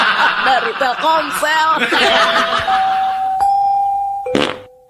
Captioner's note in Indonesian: tertawa